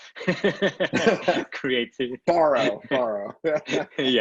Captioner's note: laughter